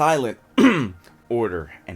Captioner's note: clears throat